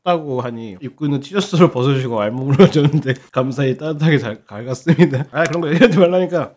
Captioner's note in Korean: ㅋㅋㅋㅋㅋㅋㅋㅋㅋㅋ